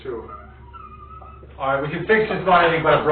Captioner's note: laughing